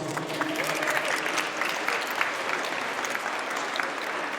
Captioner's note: audience applauds